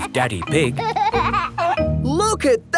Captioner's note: giggling